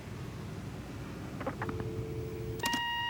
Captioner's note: click, dial tone